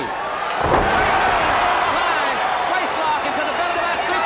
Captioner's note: audience cheers